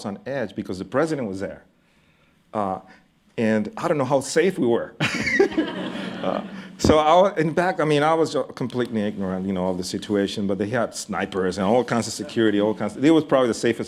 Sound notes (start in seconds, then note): 5.0 laughter